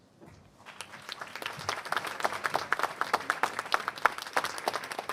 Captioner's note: applause